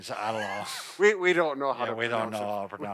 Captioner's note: laughs